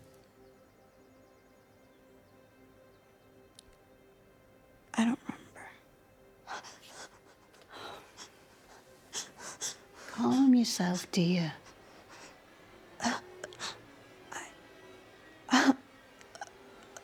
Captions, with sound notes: - I don't remember. (panting) - Calm yourself, dear. - Uh, I, (eerie music)